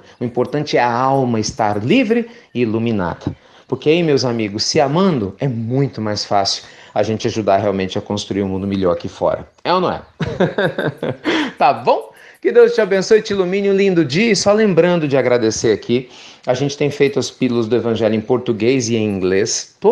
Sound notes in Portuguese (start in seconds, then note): 10.1 Risos